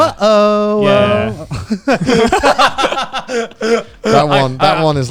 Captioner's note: all laughing